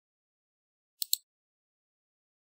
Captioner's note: mouse click